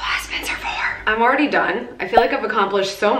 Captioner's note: pop